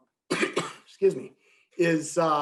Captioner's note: coughs